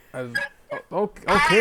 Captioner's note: laughing